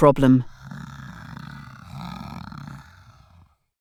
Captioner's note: bear growls